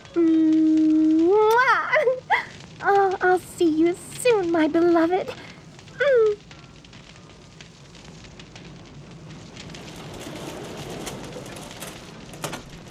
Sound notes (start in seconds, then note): 0.1 kiss noise